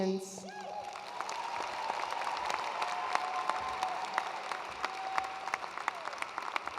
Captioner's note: attendees cheering and applauding